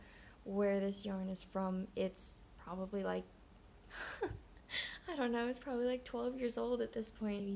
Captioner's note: laughs